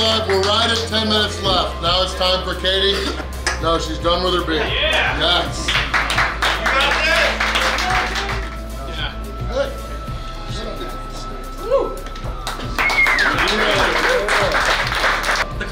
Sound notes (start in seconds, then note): 5.4 cheering and clapping; 12.0 clapping